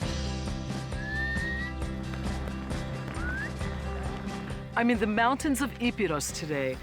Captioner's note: whistle call